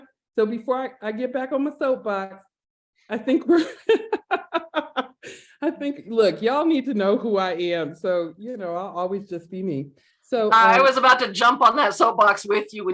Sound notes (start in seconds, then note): 3.2 laughter